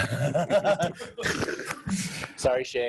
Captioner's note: laughs